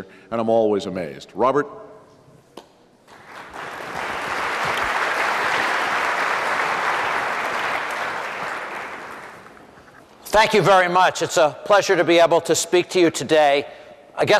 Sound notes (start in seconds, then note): 3.0 applause